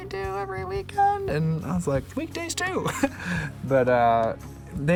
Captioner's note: laughs